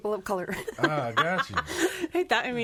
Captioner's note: laughing